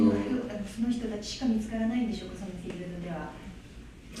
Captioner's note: japanese